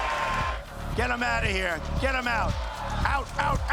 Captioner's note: crowd continues to cheer